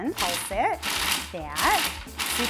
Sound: food processor whirring

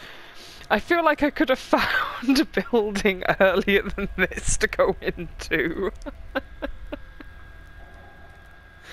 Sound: through laughter

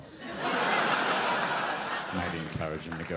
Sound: crowd laughs

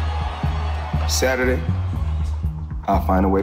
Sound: cheers and applause

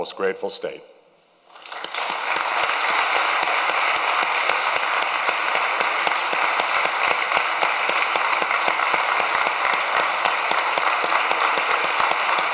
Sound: applause

